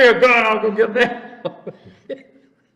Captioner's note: laughs